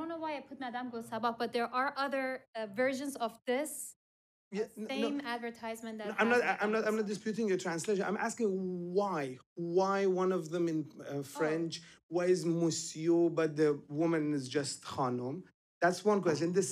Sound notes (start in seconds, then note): 12.1 foreign language spoken; 13.4 foreign language spoken